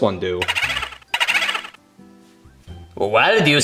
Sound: ghost whirring

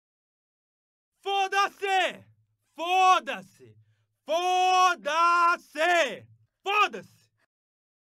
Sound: portuguese Man speaking

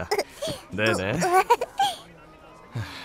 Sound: little girl giggling

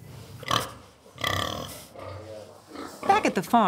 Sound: pig sounds

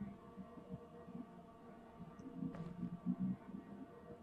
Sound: none

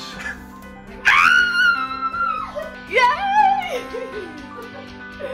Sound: screams

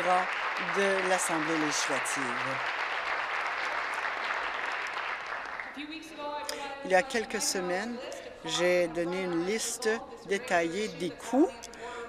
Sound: applause

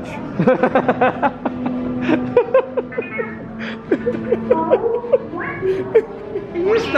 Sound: laughs

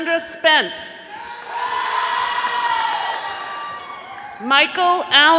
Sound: audience applauding

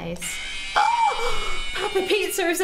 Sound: Papa Pizza screaming

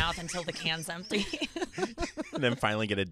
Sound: laughing

